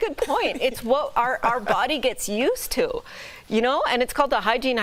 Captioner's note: laughter